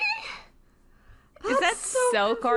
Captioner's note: none